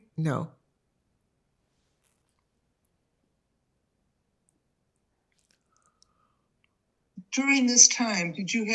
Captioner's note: pauses 6 seconds